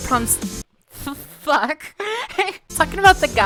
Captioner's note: laughing